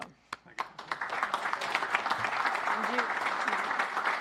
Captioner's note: applause